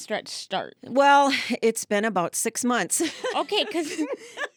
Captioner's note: laughing